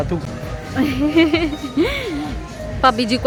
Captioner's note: laugh